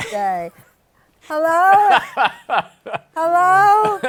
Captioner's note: laughs